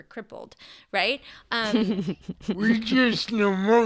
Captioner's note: laughs